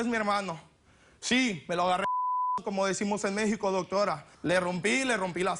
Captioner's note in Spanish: Bip